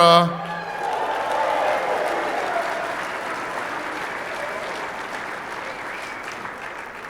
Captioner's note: applause